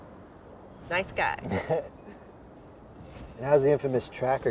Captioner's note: soft chuckle